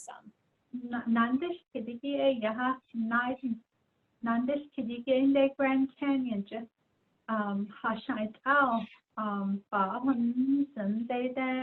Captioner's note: speaking in Diné